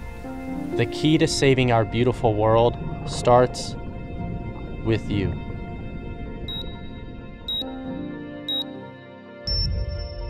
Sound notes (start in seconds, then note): 6.4 beeping